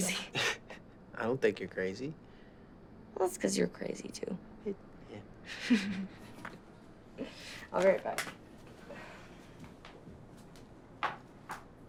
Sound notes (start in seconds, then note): 5.5 chuckling